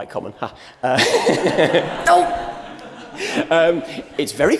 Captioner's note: laughter